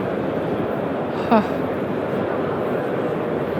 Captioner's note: sigh